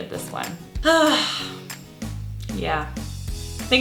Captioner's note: sighs